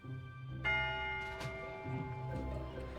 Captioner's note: bell tolls